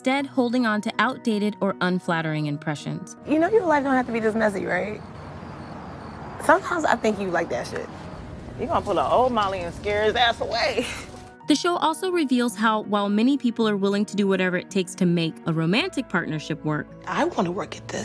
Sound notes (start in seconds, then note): 10.8 chuckles